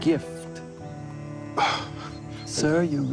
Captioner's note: scoffs